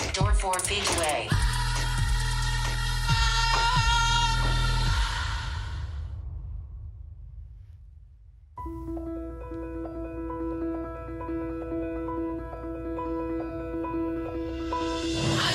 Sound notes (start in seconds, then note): 1.5 cheering; 8.6 soft gentle music